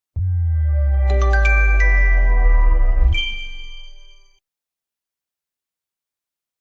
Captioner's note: chime